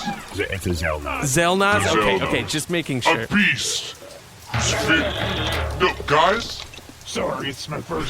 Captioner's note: guard noises